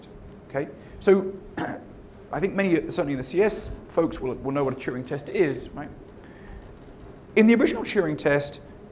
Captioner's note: cough